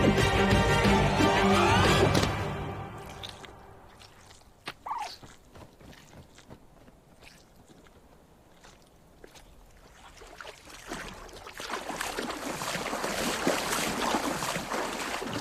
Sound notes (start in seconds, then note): 4.8 squawking; 10.0 water sloshing